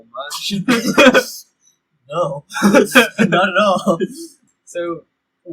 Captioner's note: laughter